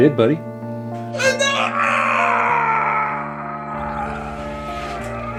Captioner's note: victim groans loudly